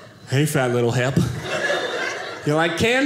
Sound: audience laughing

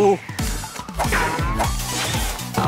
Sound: Swish

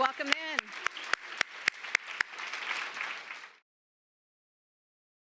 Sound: applause

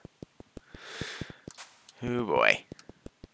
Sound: breathing

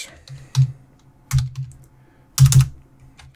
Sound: typing

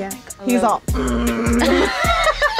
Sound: imitating needle buzzing; all laughing

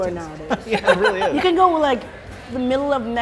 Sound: laugh

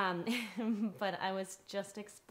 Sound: chuckles

